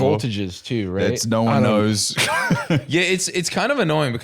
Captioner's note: laughs